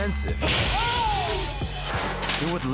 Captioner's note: glass breaking